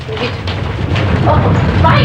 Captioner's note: rumbling